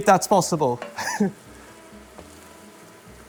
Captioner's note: chuckles